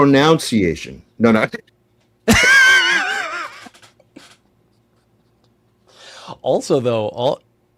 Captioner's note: laughter